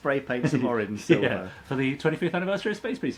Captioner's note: chuckles